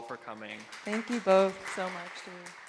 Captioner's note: audience clapping